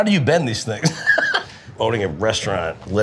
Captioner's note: person laughing